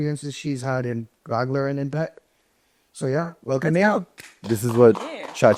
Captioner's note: clapping